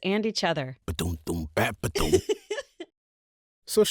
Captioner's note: happy giggle